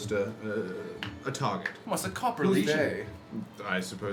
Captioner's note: none